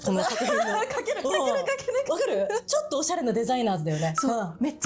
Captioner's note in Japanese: 笑い